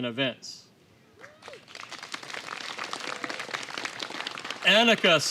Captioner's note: applause